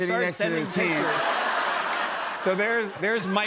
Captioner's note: laughter